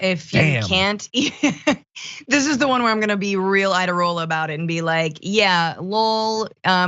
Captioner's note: laugh